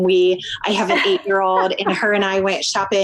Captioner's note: laughs